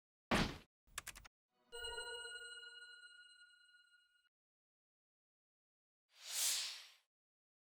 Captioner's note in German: Soundeffekte